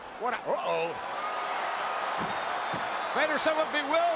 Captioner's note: crowd cheers